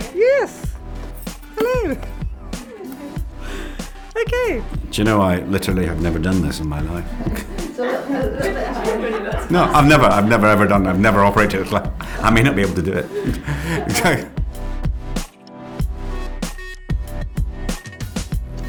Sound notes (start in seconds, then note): 13.9 laughs